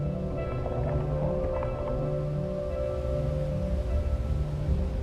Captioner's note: wind sounds